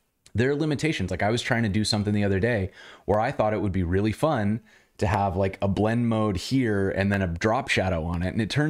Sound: audio cutting out

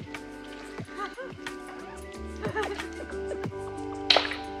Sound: laughter; pop beat playing

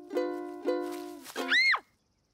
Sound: scream

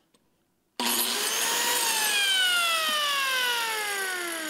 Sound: machine whirring

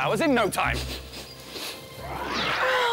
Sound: super sniff!; sigh

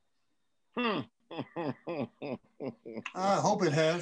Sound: man laughs

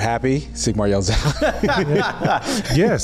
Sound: laughs

